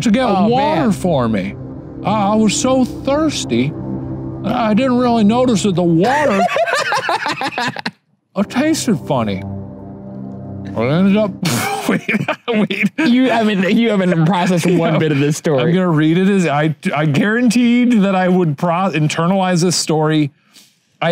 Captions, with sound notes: - an older relative to get water for me. I was so thirsty. I didn't really notice that the water, (laughs) ah, tasted funny. I ended up. (sputters, laughs) - you haven't been processing one bit of this story. - I'm gonna read it as I guaranteed that I would internalize this story.